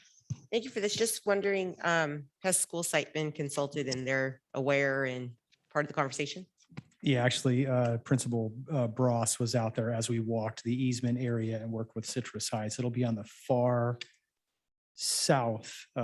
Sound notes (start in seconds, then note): 8.7 murmurs